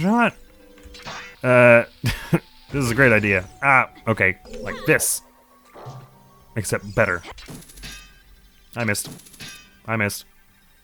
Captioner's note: snickers